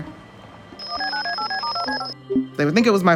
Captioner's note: phone beeping